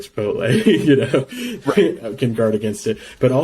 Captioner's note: laughs